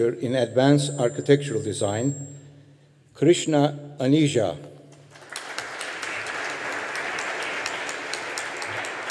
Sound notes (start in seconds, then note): 5.1 audience applauding